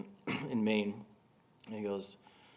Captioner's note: clearing throat